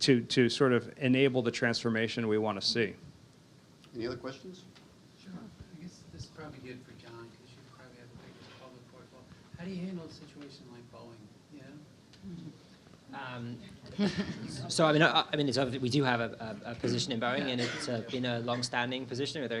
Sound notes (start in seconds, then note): 7.6 faintly speaking; 14.0 audience chuckles